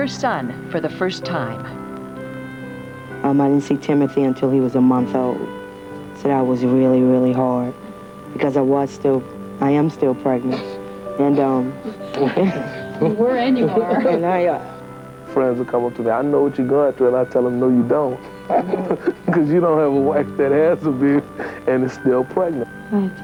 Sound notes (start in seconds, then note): 11.3 chuckling